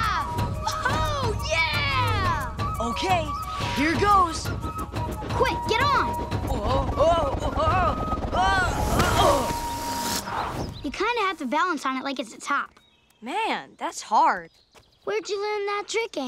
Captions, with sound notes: Whoo-hoo! Yeah! Okay, here goes. Quick, get on. Wh-oa-oa! [grunting] You kind of have to balance on it like it's a top. Man, that's hard. Where'd ya learn that trick, Aang?